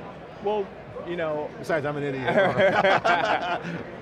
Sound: laughing

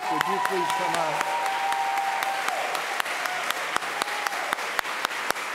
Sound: audience applauds

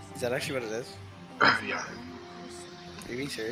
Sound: clears throat

